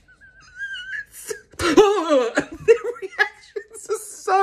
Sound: wheezing

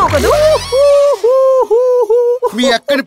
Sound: laughs

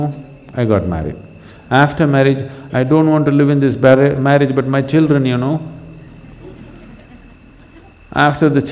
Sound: laughter

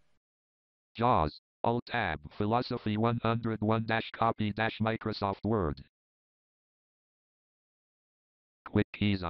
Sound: JAWS screen reader voice

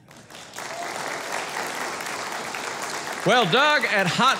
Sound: audience clapping

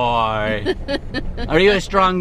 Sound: laughs

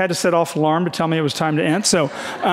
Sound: audience laughing

